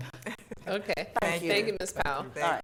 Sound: laughs

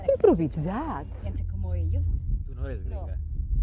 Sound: english accent

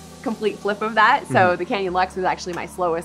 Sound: hums agreeingly

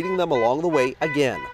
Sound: horns honking

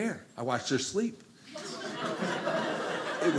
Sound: audience laughing

